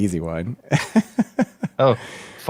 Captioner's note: laughs